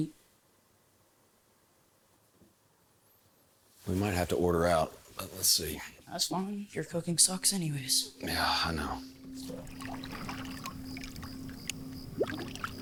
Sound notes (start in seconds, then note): 6.3 water splashing; 7.8 crickets chirping